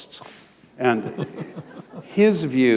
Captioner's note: chuckle